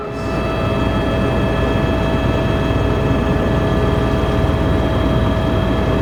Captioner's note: helicopter rotors whirring